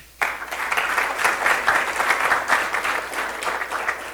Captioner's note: applause